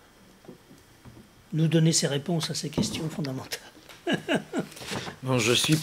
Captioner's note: laughs